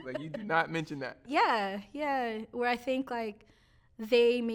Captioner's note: both laughing